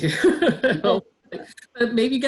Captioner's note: laughter